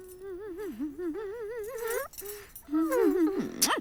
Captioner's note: humming